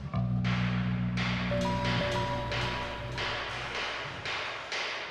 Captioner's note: loud banging